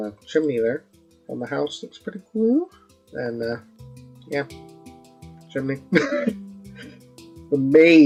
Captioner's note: laughs